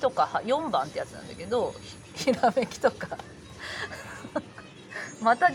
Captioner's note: laughs